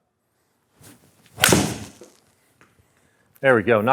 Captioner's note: club striking ball